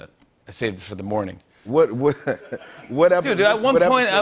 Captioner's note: laughter